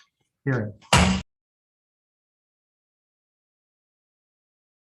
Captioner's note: gavel bangs